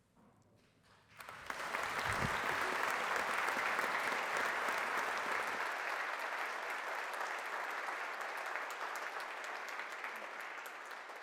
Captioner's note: applause